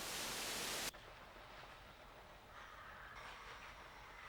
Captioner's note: static crackles